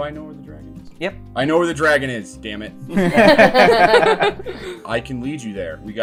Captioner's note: laughter